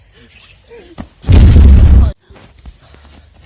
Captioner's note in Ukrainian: вибух